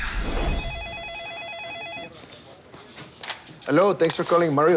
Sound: phone ringing

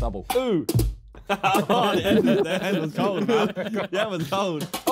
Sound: laughing

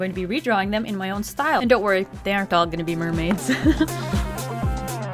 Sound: laughs

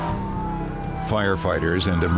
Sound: sirens wailing

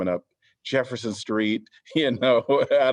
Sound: laughter

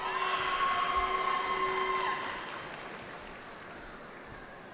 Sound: cheering

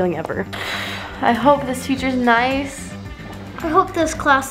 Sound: sighs

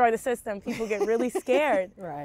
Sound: laughing

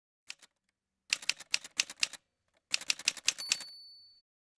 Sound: typewriter sounds

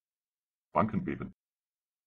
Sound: fast Pronunciation

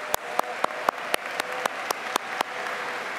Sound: applause

